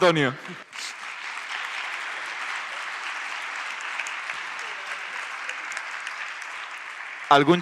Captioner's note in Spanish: Aplausos